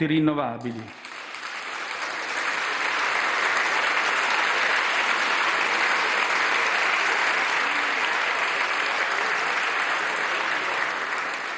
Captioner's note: mega roar of applause